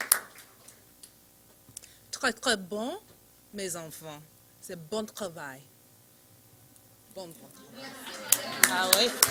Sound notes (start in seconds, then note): 3.9 foreign language